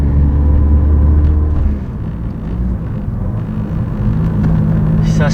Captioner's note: Dat SR20DET purring in the backgroud